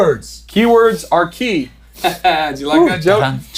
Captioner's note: chuckles